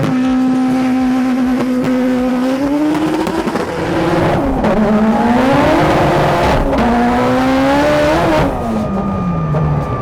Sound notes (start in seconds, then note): 0.7 car roaring; 5.6 car roaring continues